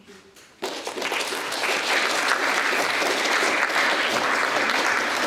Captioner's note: audience applauding